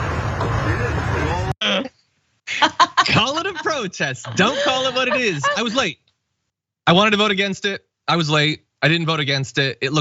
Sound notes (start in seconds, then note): 2.5 laugh